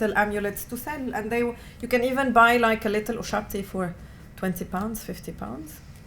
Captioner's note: non-english; non-english